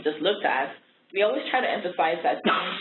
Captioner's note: coughing